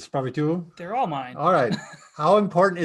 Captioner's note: laughing